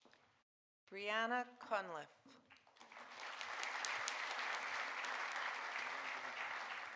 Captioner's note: audience applauding